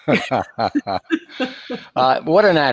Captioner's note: laughing